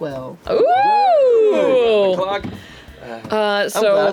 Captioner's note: oohing